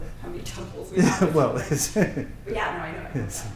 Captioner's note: laughs